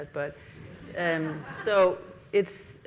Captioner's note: audience laughs